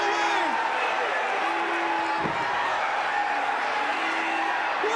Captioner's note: fans chattering